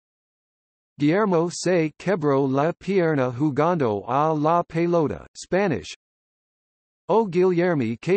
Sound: Spanish

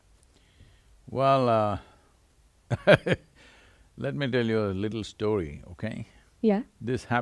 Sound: laughs

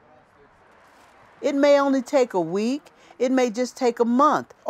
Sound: none

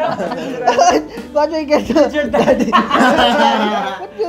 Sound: laughs

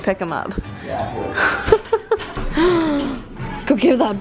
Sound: laughs

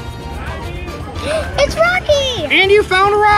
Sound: gasps

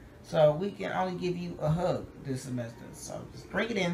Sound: none

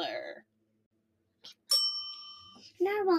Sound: bell dings

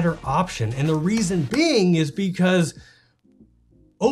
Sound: claps

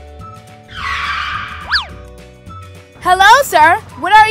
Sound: brakes screeching

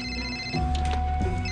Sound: cell phone rings

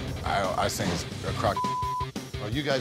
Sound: beep

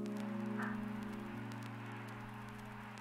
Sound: music fades; static

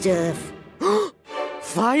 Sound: gasps

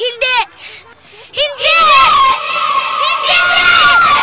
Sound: echoing

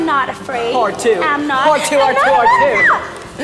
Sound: screams

